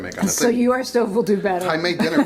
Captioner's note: laughs